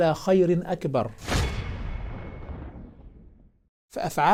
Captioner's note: sound effect